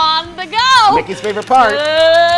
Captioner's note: hands drum-rolling